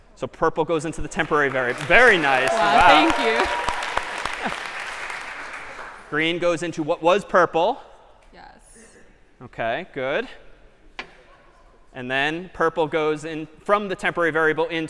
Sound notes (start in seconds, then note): 1.0 applause